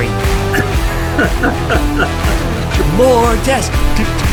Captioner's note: laughs